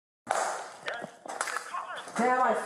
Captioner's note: radio chatter